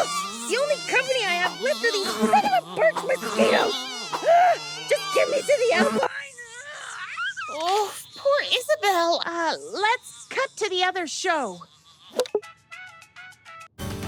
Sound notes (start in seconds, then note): 7.4 Isabelle screams; 12.2 click; 12.5 smooth jazz music